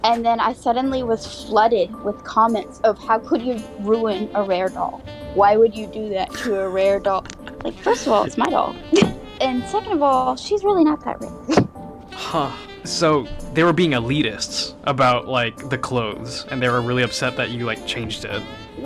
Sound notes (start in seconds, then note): 9.6 laughs